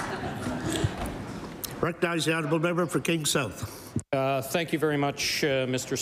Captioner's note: laughter